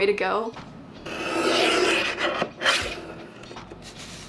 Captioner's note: blade slicing